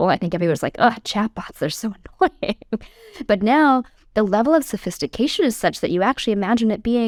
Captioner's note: laugh